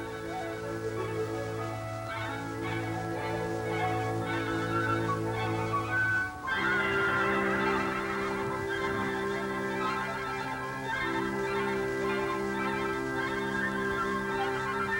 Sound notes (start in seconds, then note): 4.1 neigh